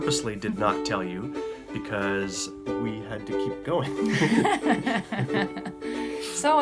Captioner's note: both chuckle